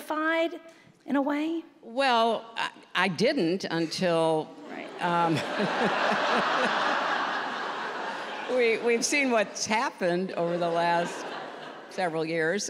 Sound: laughter

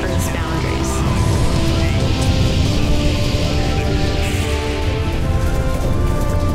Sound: shuttle engines igniting; applause

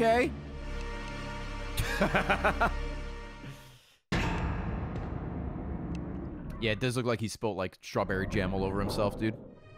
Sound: laughs

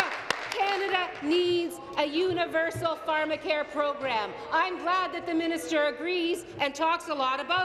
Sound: applause

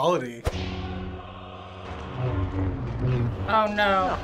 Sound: light sabers buzzing

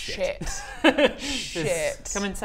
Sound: crafty giggle

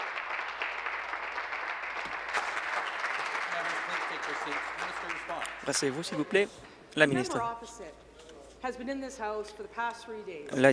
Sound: applause

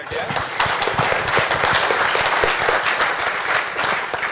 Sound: applause

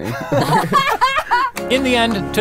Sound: laughing

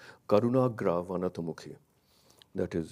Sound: speaks in a foreign language

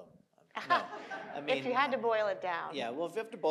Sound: audience and panelists laughing

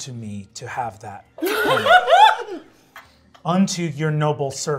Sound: laughing

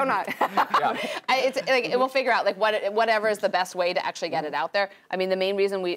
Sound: laugh

